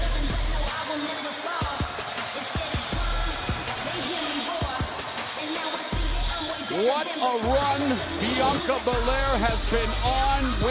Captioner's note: crowd cheering